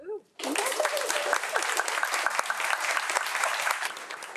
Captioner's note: audience applauds